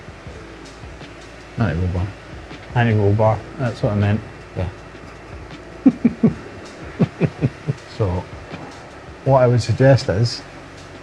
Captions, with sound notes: Anti-roll bar. Anti-roll bar, that's what I meant. Yeah. (laughs) So, what I would suggest is,